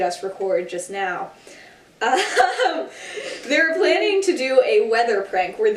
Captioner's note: laughing